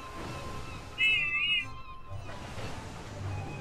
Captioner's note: whiff whistles